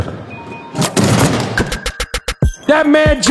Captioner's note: dunk sound